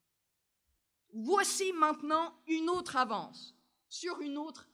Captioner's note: speaking french